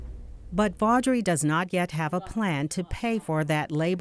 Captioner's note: voiceover